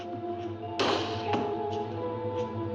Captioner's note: jimmying door; bang; suspenseful music